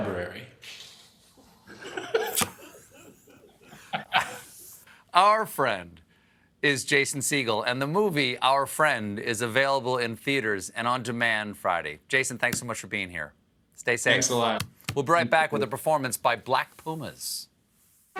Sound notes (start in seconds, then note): 1.6 laughter